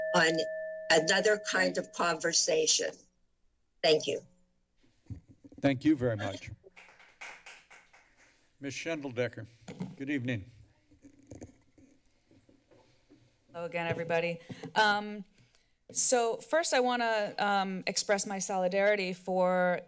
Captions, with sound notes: on another kind of conversation. Thank you. - Thank you very much. [Applause] - Ms. Shindel Decker. Good evening. - Hello again everybody. Um, so first I wanna, um, express my solidarity for